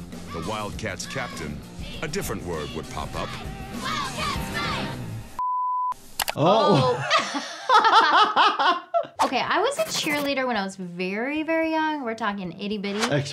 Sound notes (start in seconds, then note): 5.4 beep; 6.6 laughing